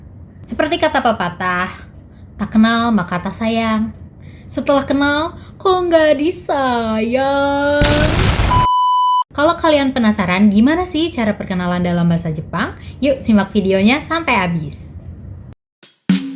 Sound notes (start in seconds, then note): 7.8 boom